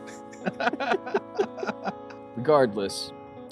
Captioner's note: both laughing